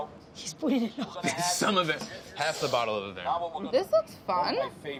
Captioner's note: laughs